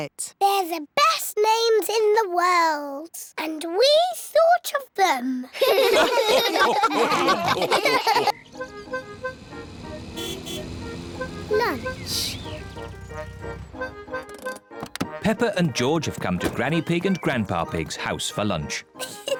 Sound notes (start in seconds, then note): 5.5 all laugh; 10.2 horn honks